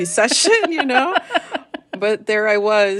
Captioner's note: laughter